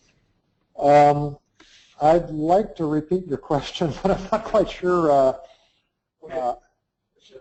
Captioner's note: laugh